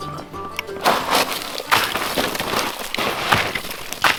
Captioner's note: ice rattling